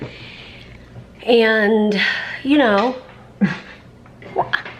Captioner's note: laughs